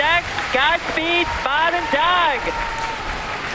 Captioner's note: applause